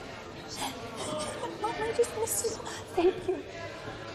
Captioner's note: crying